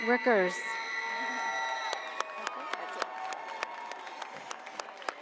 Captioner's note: audience cheers